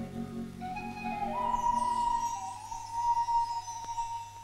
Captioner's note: sound of whistling